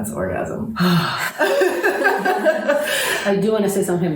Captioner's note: laughter